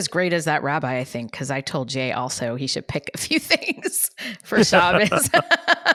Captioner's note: laughs